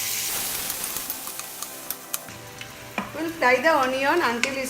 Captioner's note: sizzling